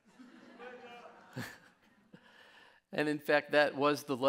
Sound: laughs

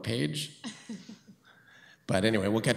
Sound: woman chuckles

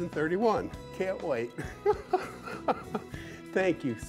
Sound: laughs

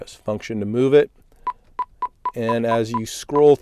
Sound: beeping

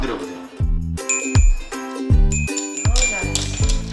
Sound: ding

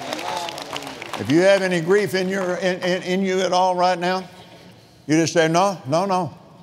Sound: cheering

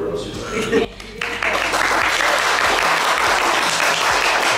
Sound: group applauds

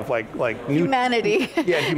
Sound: laughs

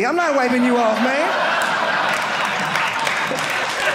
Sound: audience laughing

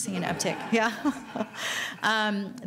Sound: laughing

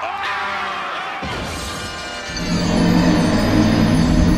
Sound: all screaming; crash

